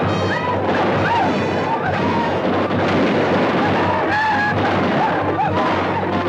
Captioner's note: guns fire; Apaches howl; guns fire